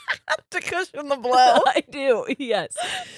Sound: both laughing

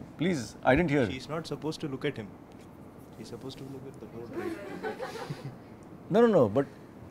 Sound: students laugh

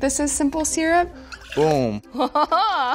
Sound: liquid trickling; woman playfully laughing

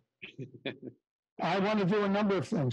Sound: laughter

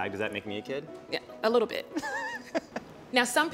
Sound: laughing

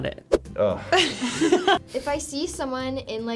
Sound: laughs; exhales

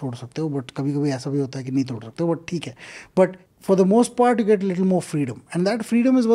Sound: speaks in Hindi

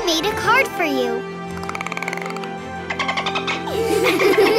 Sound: dolphin clicks; giggling

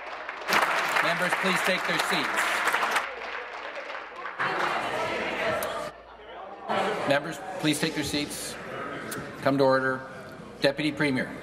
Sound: applause

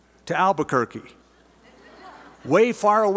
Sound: laughter

